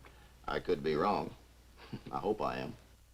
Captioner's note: chuckles